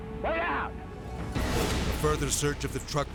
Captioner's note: dramatic whoosh